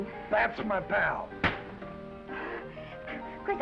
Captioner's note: hand thuds; Esther chuckles